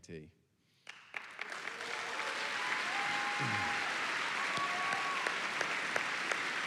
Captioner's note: applause and cheering